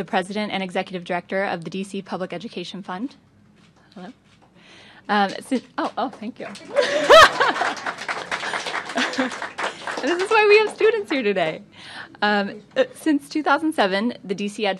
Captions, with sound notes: PRESIDENT AND EXECUTIVE DIRECTOR OF THE D.C. PUBLIC EDUCATION FUND. HELLO. OH, OH, THANK YOU. [LAUGHTER] [APPLAUSE] THIS IS WHY WE HAVE STUDENTS HERE TODAY. SINCE 2007, THE D.C.